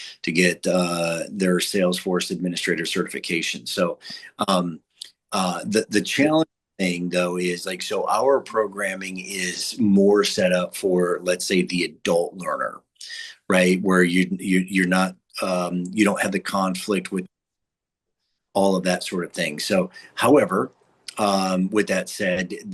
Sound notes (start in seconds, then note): 17.2 audio cuts out